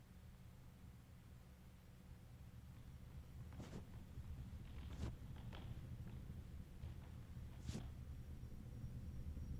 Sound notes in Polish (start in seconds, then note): 5.0 Ciągłe niskie buczenie w tle